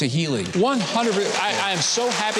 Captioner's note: audience applauding